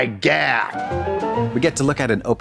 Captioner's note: bright chime